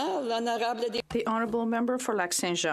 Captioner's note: applause